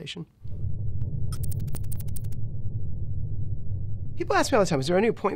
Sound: electronic typing

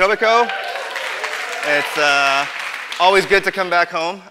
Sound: audience applause

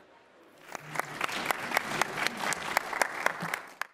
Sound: applause

